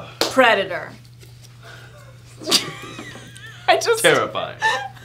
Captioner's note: laughing